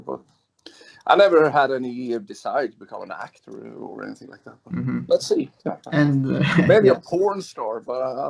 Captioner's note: laughs